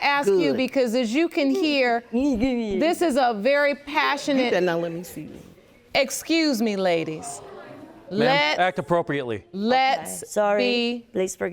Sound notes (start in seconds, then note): 1.7 mocks; 5.6 audience murmurs